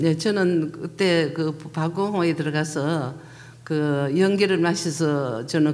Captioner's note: speaking foreign language